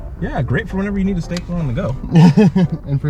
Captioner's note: laughs